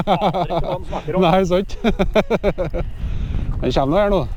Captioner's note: laughs